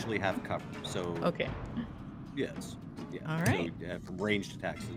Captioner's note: chuckles